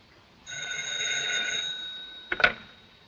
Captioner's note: phone rings